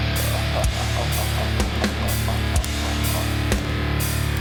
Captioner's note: laughing